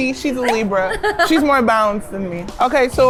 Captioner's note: laughing